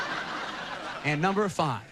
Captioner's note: laughter